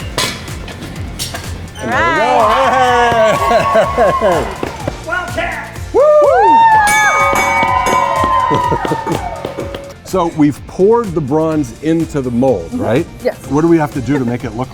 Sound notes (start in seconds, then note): 5.9 cheering, metal clanging